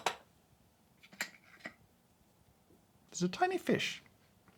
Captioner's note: small rattle, big mystery